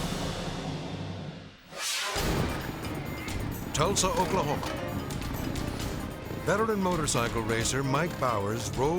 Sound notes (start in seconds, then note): 1.3 air whooshes; 1.3 tense music; 3.2 engines rumbling